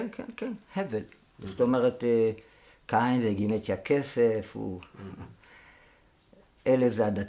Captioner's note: a fleeting breath